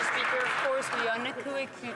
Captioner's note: some Applause